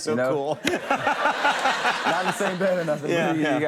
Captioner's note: audience laughing